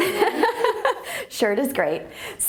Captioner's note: laughing